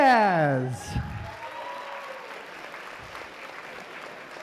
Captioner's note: applause